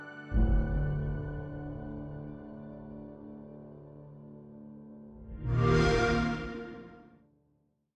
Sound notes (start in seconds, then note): 5.4 xbox sound